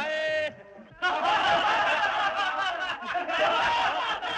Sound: laughing

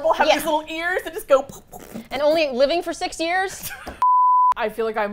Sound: cutesy puffing sounds; laughs

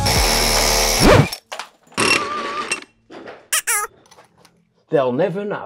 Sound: music cutting out; brick clattering

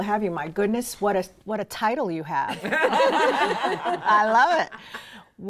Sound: laughing

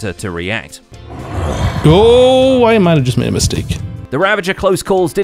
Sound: Ravager growls

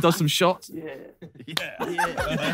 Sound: Sidemen laughing; hands slap

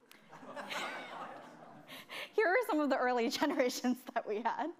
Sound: chuckling

